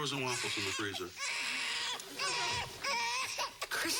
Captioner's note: Ed Jr. crying